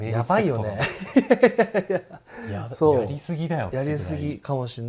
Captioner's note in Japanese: 笑い